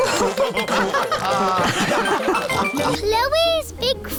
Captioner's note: all laughing